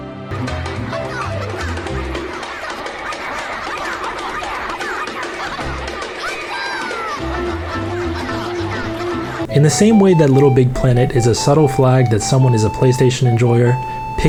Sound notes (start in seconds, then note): 0.1 mischievous music; 3.4 chanting together; 6.8 mischievous music continues